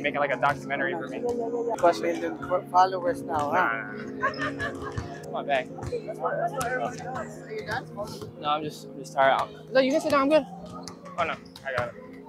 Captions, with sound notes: A million followers now. [Laughter] Are you done? No I'm just tired. Oh no you can down I'm good. Oh no I got it.